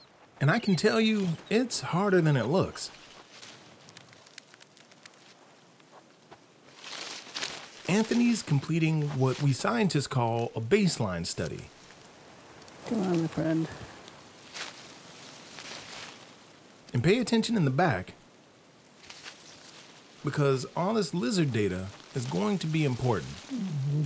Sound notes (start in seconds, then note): 6.6 palm fronds rustling